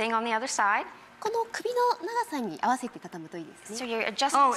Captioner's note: speaking foreign language